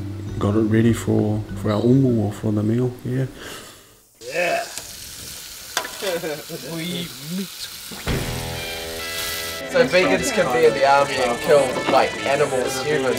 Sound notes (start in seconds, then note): 6.0 chuckles